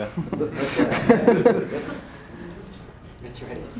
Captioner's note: laughter